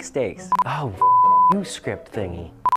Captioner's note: beeps